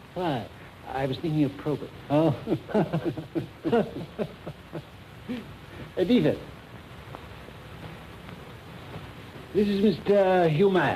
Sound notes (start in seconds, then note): 2.2 both laughing